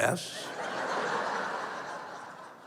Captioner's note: laughter